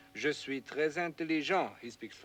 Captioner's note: speaking foreign language